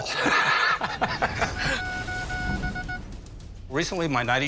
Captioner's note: both laugh; telegraph beeping